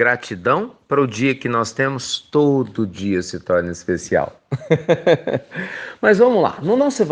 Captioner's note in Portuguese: risos